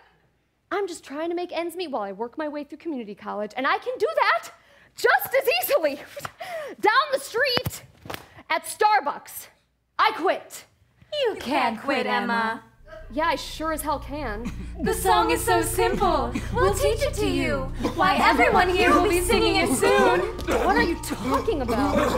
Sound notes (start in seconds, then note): 11.0 singsongy Voice; 19.6 coughing